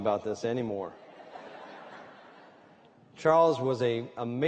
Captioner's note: laughter